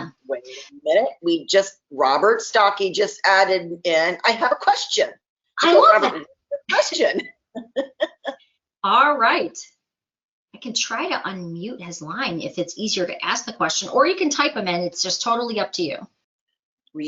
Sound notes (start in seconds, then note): 7.6 laughs